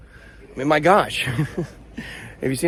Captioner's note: chuckles